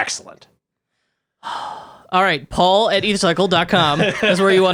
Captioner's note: sighs heavily